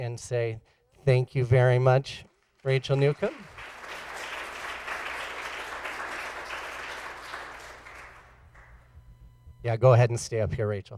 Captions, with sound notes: An say thank you very much [Applause]